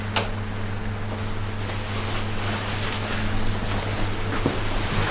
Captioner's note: heavy rain outside